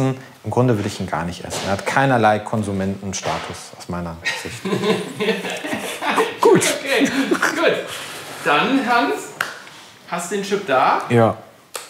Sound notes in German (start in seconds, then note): 4.2 Lachen